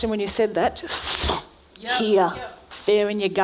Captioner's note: grabs a breath